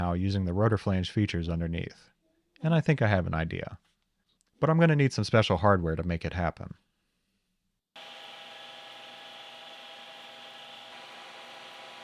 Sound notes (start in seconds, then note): 7.9 machine whirring